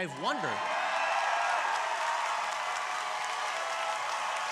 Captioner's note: crowd applauding